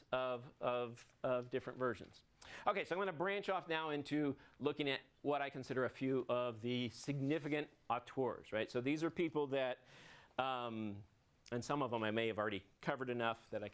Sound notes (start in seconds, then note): none